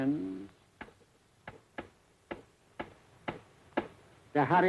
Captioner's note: tapping table